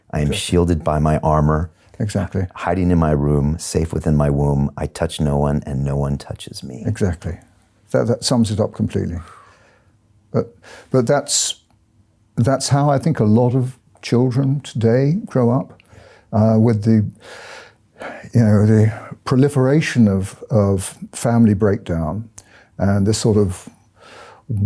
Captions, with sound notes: "I am shielded by my armour, hiding in my room, "safe within my womb, I touch no one "and no one touches me." - Exactly, that sums it up completely. But that's, that's how I think a lot of children, today, grow up. With the (inhales) you know, the proliferation of family breakdown and the sort of western